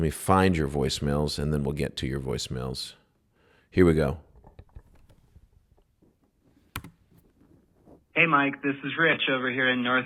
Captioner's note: voicemail playback